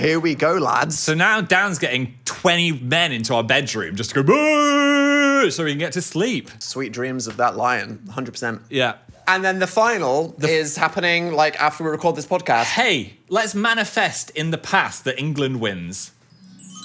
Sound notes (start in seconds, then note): 4.2 yells; 16.3 gentle chiming music